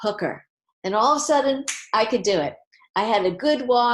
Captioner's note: finger snap